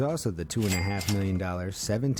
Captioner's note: cash register ringing